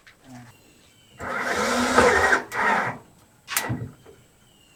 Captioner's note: drilling